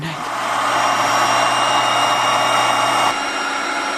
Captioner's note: pool inflating